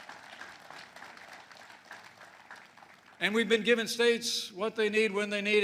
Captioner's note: applause